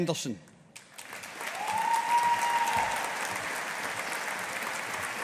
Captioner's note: audience applauding